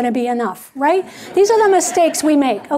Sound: audience laughing

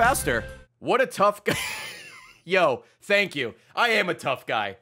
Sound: laughs

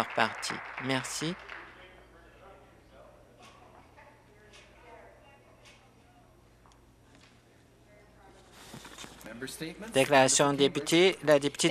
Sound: some Applause

